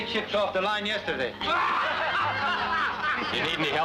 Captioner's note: people laughing